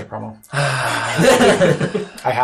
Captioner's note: sigh